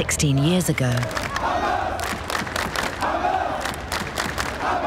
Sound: chanting and clapping

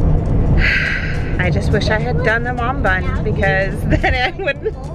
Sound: sigh

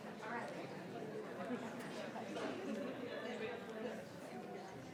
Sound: members chattering

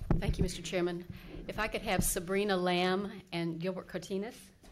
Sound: none

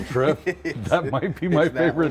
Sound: laughs

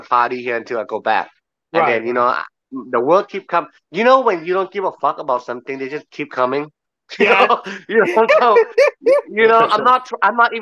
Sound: podcast laughs in agreement

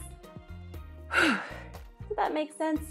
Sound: sighs

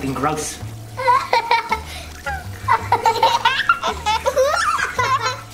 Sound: children laughing

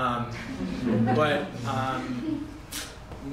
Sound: laughter

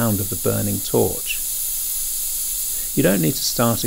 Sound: sound of torch

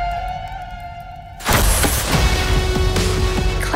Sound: trap springs

